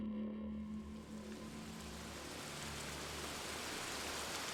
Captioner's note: rain during a thunderstorm